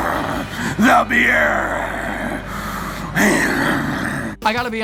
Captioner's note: growls